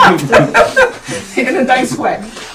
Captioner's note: all laughing